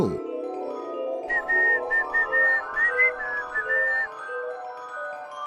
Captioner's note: whistles